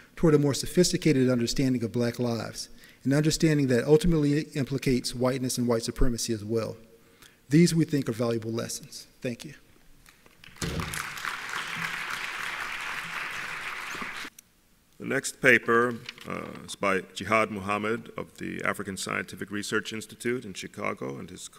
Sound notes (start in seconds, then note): 10.4 applauding